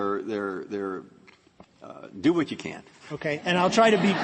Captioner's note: laughter